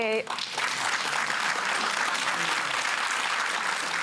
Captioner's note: applause